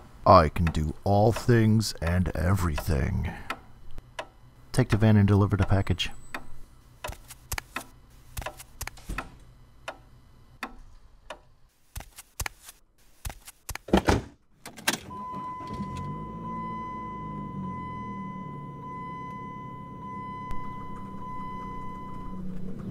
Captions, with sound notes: I can do all things and everything Take the van and deliver the package (footsteps) (footsteps) (door closing) (footsteps) (footsteps) (van door open) (footsteps) (van door close) (Engine starts) (engine idling)